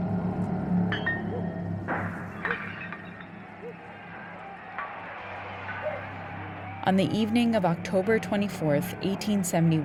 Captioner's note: soundbite of dogs barking and people looting